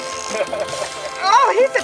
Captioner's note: laughing